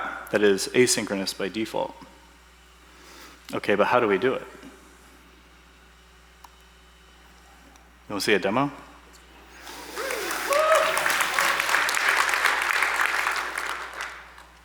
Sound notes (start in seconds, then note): 9.9 applause